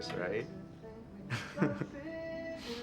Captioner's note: chuckle